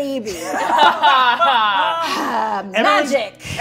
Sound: all laughing

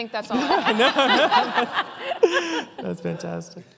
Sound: laughter

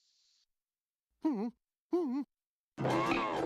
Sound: whimpers

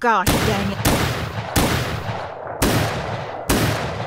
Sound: gunshots

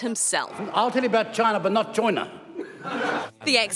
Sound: laughter

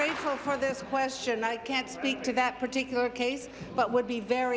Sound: applause

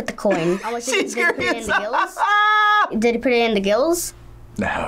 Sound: laughs

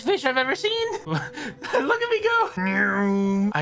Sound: through laughter

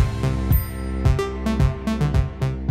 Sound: bell chimes

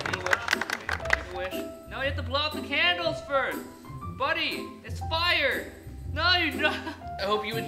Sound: laughter

